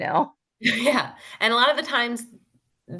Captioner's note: laughs